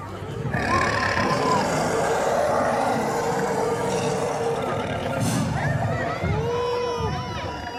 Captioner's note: grunting